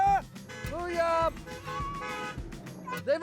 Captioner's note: cars honking